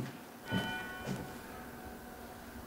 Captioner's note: church bell